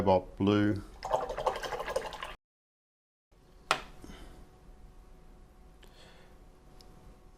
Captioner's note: silence